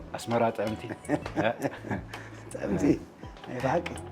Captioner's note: laughs